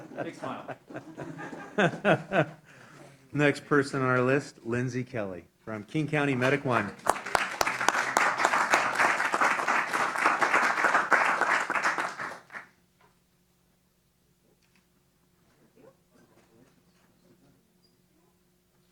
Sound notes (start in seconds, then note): 6.4 applause